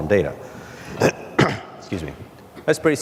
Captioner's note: clears throat